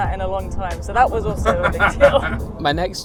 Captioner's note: laughs